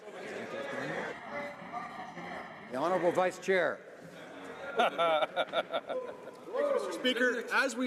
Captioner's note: some Applause